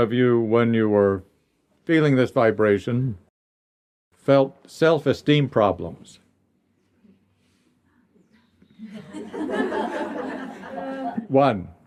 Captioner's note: laughter